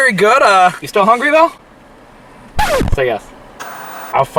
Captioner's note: record scratching